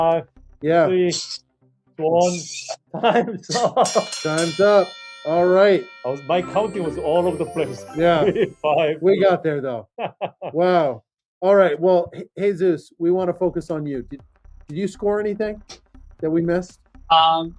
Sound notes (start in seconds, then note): 3.9 bell ringing